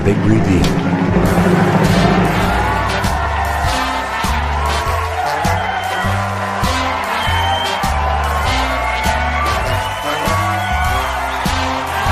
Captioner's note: applause